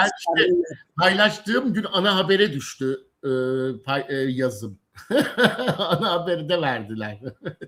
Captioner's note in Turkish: kahkaha